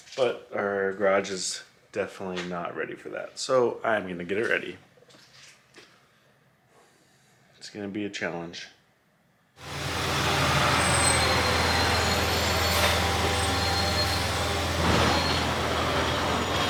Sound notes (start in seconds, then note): 9.6 garbage truck engine